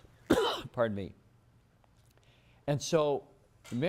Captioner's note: cough